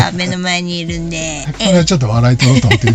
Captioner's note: laughs